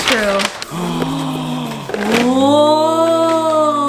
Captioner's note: gasps in awe